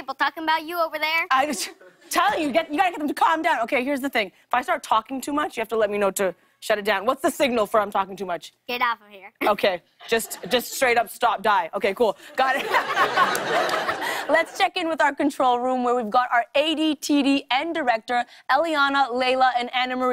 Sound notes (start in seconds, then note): 12.4 laughter